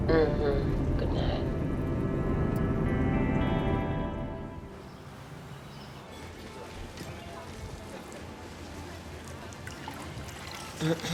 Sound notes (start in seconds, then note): 4.7 birds singing